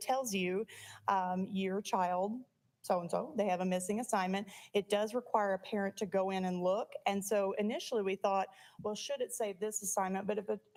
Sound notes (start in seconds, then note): none